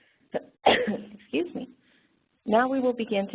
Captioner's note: coughs